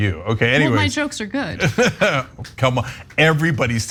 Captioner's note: laugh